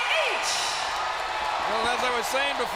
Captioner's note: crowd cheering